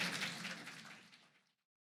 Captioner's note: applause